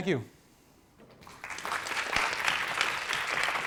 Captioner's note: applause